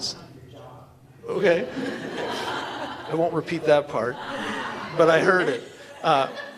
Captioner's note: laughter